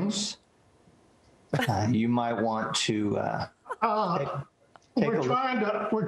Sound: laughter

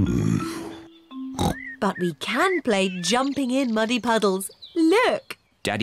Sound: oinks

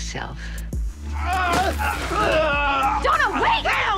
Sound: groaning

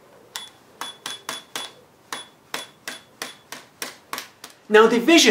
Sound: calculator beeping

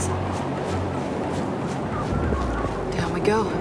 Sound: wind blowing

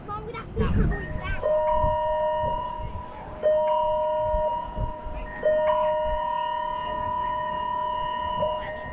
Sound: emergency signal alarm announcement before departure

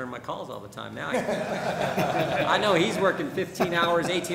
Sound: laughter

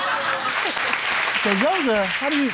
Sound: audience laughing and clapping

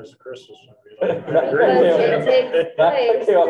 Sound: group laughing

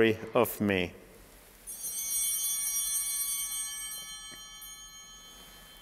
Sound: bell ringing

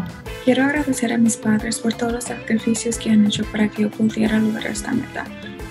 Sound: speaks in foreign language

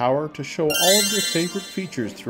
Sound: magical tinkling

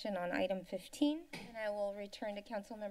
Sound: thump

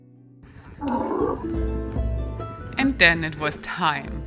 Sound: camel grunting

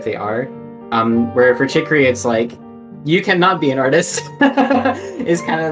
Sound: laughs

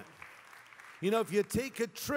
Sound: congregation applause

